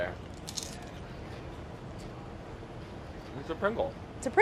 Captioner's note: crunching